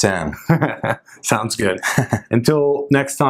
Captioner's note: chuckles